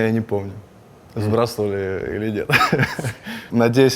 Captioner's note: laughs